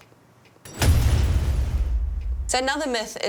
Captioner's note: metal thudding; metal clanging